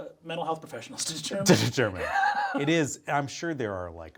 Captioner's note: Brennan laughing